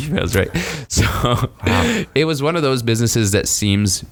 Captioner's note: laughs